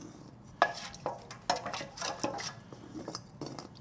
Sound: stirring

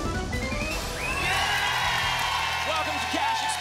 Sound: applause and cheering

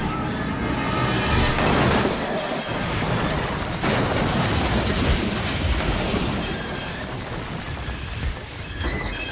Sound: hard crash and bang

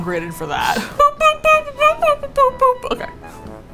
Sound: babytalk

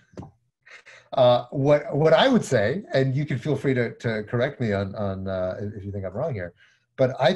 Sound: chuckles

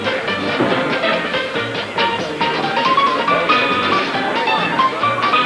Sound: indistinct chatter

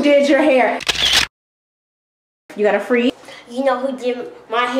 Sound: camera shutter

